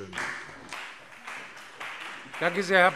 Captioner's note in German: Beifall CDU und vereinzelt BÜNDNIS 90/DIE GRÜNEN